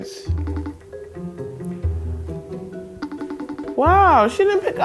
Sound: phone ringing

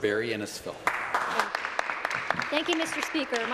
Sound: some applause

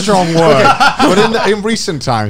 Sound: chuckling

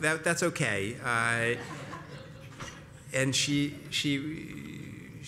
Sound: laugh

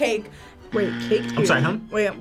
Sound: buzzer buzzing

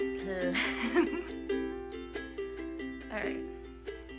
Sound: laughs

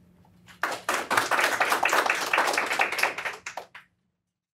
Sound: audience clapping

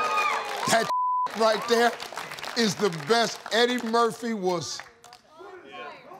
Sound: audience cheers and applauds; beep

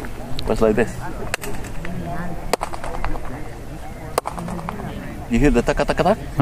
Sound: claps, followed by quick back-and-forth echoes

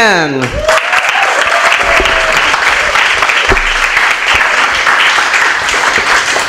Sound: applause

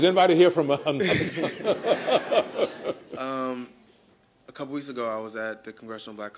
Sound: laughter

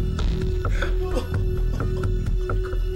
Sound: frankie crying

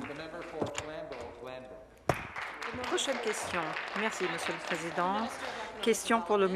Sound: applause

